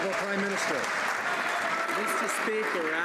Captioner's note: some Applause